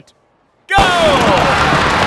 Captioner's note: patter of running feet